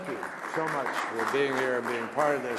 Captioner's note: applause